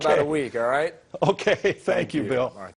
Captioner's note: chuckles